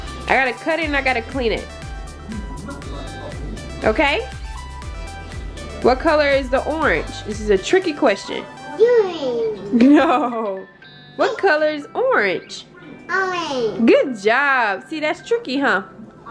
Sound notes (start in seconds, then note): 9.7 laughs